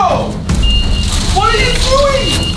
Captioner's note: beeping